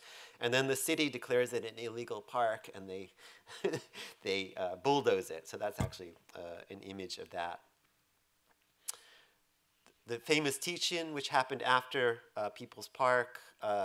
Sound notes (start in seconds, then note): 3.6 chuckles